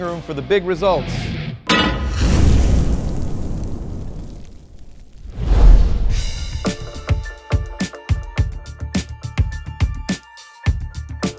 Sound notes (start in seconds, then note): 1.7 clangs; 1.8 sizzles; 6.0 casual music